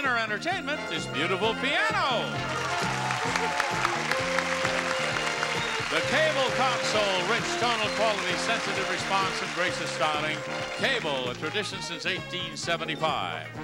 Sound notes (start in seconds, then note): 2.2 audience applauds